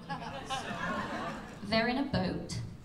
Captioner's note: laughter